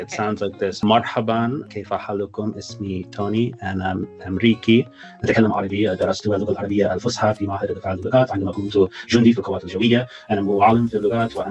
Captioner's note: Speaking in Arabic